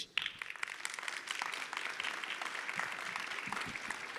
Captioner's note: audience applauding